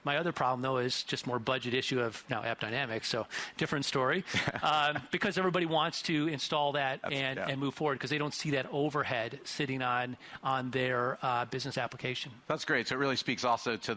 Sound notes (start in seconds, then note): 4.2 interviewer laughs